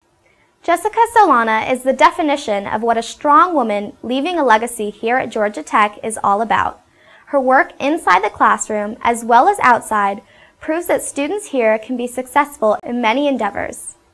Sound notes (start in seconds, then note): none